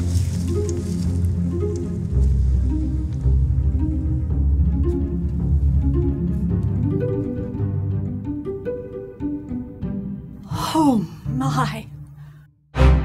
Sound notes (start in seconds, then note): none